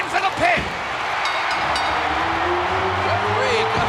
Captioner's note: bell rings